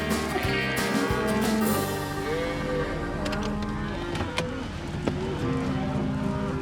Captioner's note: cows moo